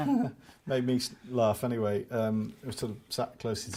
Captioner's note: laughs